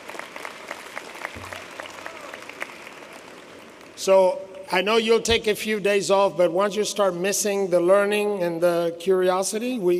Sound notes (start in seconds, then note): 2.3 applause